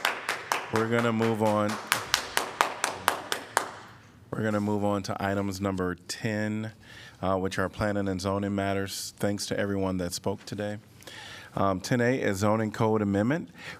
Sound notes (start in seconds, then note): 0.0 applause